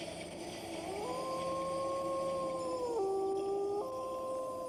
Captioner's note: wolf howling